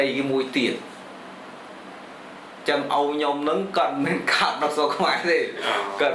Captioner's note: laughs